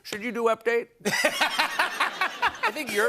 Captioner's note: laughter